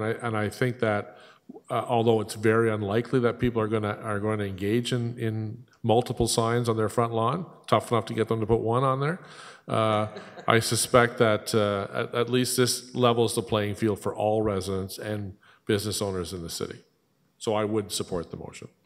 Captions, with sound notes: And I think that although it's very unlikely that people are going to engage in multiple signs on their front lawn--tough enough to get them to put one on there-- [laughter] >> --I suspect that at least this levels the playing field for all residents and business owners in the city. So, I would support the motion.